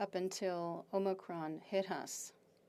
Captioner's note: speaking French